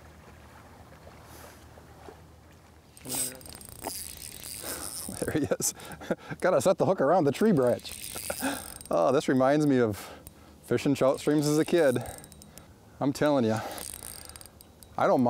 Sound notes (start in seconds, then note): 2.9 reel whirring; 5.0 laughs